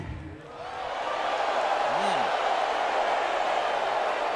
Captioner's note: crowd exclaiming